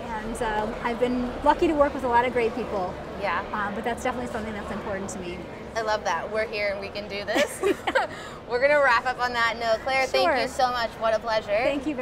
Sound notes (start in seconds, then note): 7.6 laughing